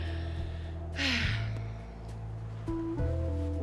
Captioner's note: sighs